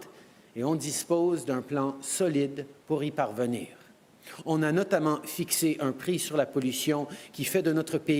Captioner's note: speaking french